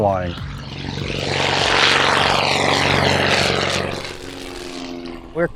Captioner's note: airplane engine rumbling